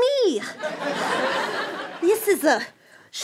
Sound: laughter

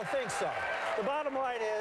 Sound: applause

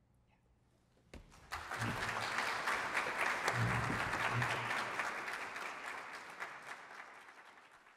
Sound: applause

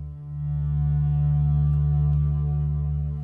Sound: monotonous rumble

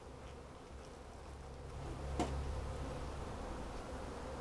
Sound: bees buzzing

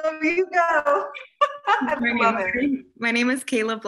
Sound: laughter

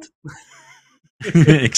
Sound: laughter

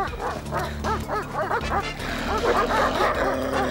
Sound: barking

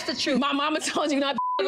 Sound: beep

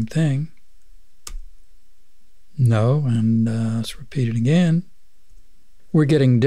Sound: click

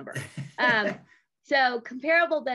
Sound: chuckles

